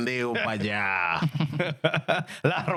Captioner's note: speaking In Spanish